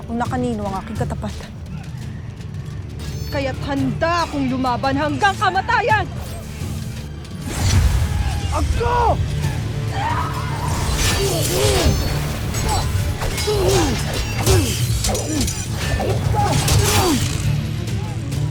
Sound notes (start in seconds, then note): 7.7 weapon swoosh; 9.8 screams; 10.7 grunting & growling; 10.9 weapons clanging & swishing